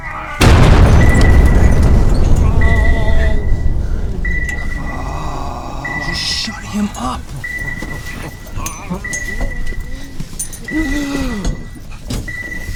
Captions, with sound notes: [explosion] Just shut him up! [radar blips getting louder]